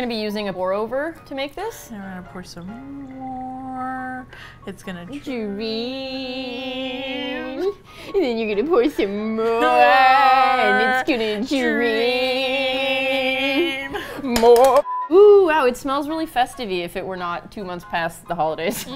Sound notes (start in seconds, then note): 5.2 singsong; 9.6 singsong; 14.4 drums on the table; 18.7 both laugh